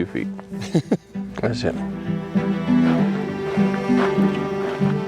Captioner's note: chuckles